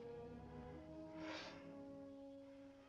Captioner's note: sigh